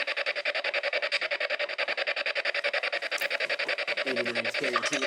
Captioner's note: machine buzzes